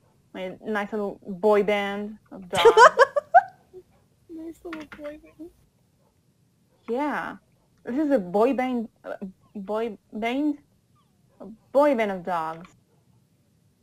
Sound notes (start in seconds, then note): 2.5 laughs